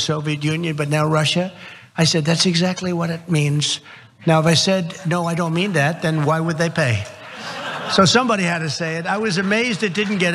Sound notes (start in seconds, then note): 7.1 laugh